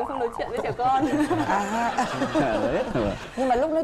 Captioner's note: laughing